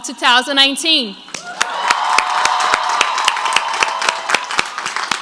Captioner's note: crowd applauds